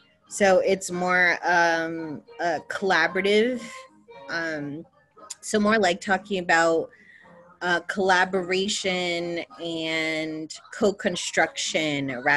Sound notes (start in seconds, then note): none